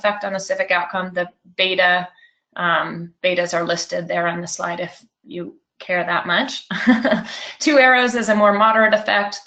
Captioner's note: laughs